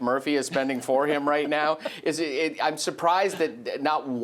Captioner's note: laughs